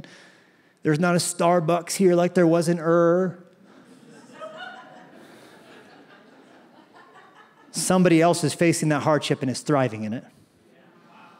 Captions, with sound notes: and there's not a Starbucks here like there was an Ur-- [LAUGHTER] --somebody else is facing that hardship and is thriving in it.